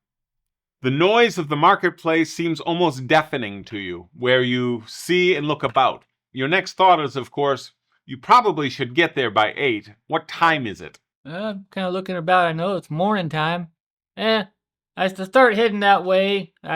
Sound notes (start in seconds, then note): none